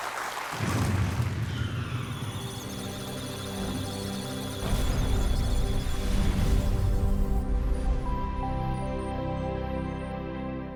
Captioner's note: electronic sounds of data; musical tones